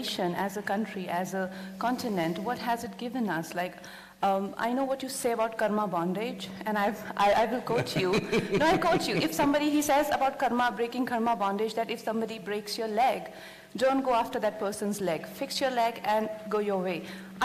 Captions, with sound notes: as a country, as a continent, what has it given us? Like, I know what you say about karma, bondage and I will quote you (Sadhguru Laughs). No, I quote you - if somebody he says about karma, breaking karma bondage, that if somebody breaks your leg, don’t go after that person’s leg, fix your leg and go your way.